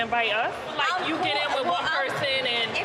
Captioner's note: murmurs